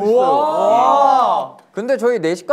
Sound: group cheer

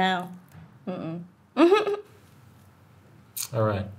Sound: giggling

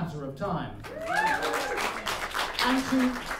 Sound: applause

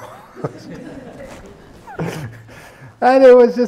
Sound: laughter

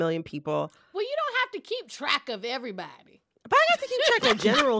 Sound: laughter

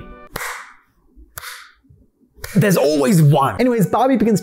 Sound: clap clap

